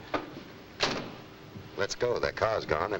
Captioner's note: car door slams